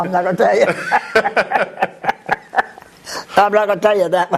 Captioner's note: laughter